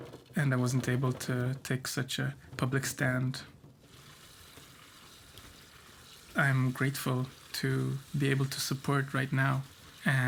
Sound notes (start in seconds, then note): none